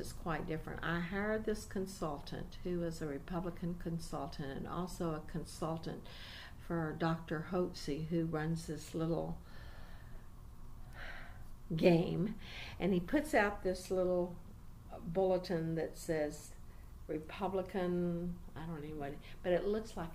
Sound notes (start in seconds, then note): 9.7 sighs